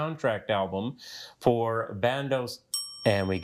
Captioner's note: bell dings